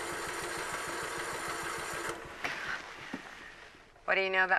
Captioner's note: engine cranking